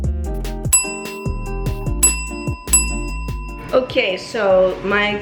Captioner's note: kitchen timer bell dings